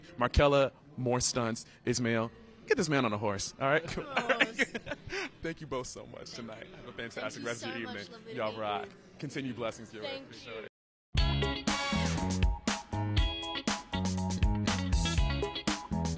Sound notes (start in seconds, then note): 3.9 laughing